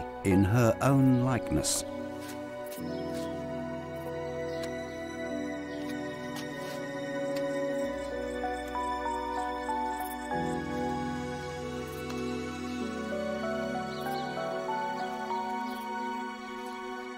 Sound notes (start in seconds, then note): 4.5 birds chirping; 4.5 mystical music continues